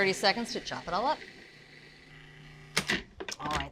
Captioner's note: processor whirring